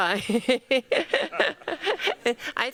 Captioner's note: laughs